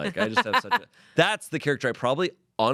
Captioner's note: laughs